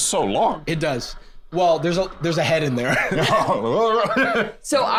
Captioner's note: laughs